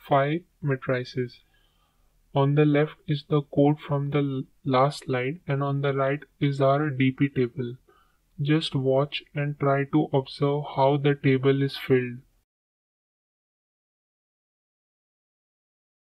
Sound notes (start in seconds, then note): 12.5 silence